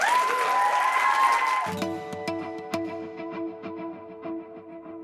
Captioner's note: applause